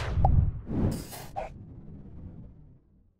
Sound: swoosh

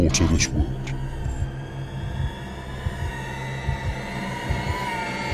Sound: heart beating

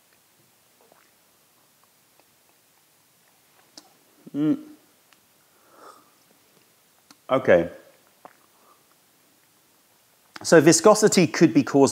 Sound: sips tea

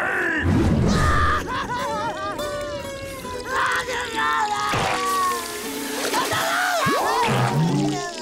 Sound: crying

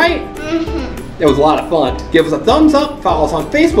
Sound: voiceover

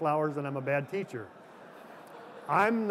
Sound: laughter

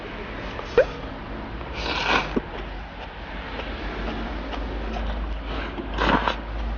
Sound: slurping noodles X 11

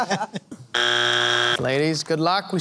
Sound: buzzer

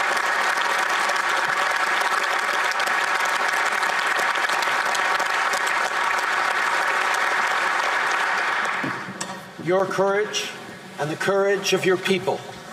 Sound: applause

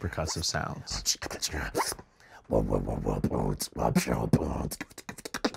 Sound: beatboxes

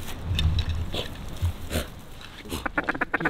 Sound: dog breathing heavy; duck calling

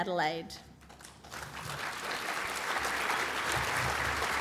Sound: applause

